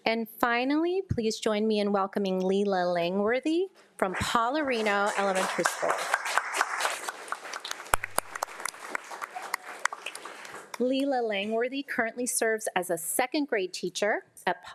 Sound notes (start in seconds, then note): 6.4 audience applauds